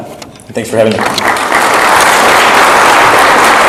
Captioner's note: audience clapping